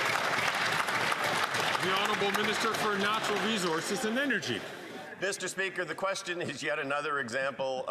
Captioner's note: cheering and Applause